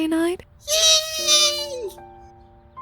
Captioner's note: happily squeals